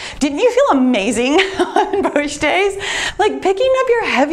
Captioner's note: laughs